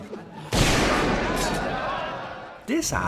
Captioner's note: loud iconic gunshot